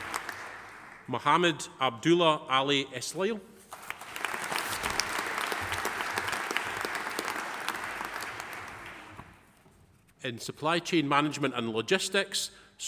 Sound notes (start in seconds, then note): 3.7 audience applauding